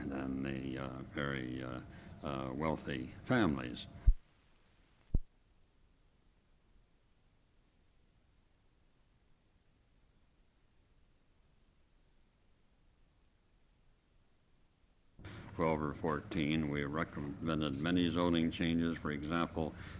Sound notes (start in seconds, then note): 5.5 no audio